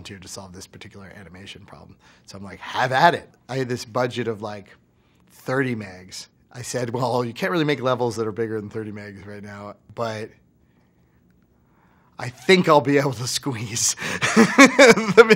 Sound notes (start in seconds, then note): 14.1 laughs